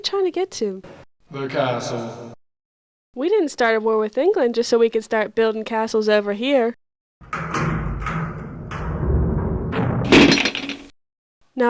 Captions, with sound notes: Where you trying to get to? - The castle. - We didn't start a war with England just so we could start building castles over here. (vault bellows)